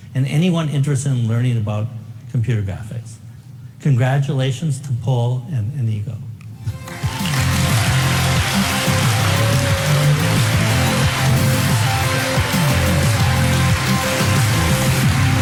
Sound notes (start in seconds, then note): 6.6 upbeat music; 6.7 audience applauding